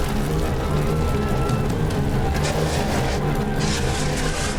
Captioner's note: passengers shrieking; extinguisher hissing